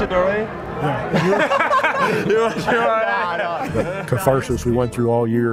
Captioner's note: Manu and Tony Laugh lmao